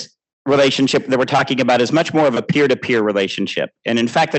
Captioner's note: laughing